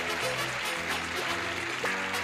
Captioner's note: clapping